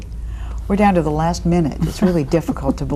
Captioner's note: chuckling